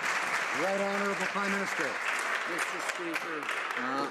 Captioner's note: some Applause